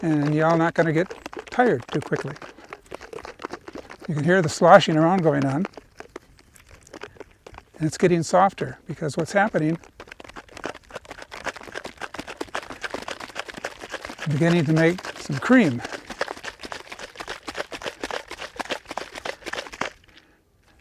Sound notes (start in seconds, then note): 10.5 milk sloshing; 16.5 milk sloshing